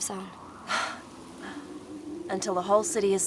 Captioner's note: laughs